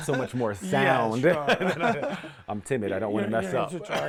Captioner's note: laughter